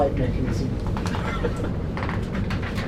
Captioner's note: laughs